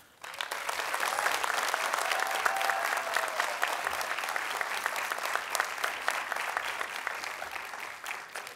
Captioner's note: applause, Cheering